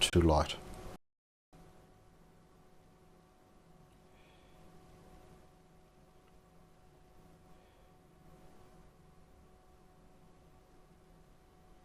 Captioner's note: silence